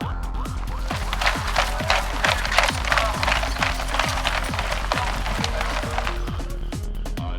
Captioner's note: steps